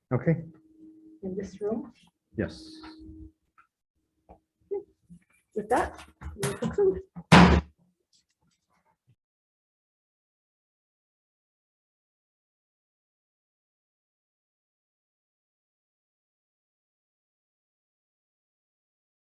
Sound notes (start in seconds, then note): 7.2 gavel hammers